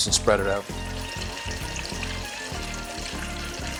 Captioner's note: sizzling